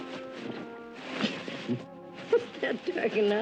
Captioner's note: both giggling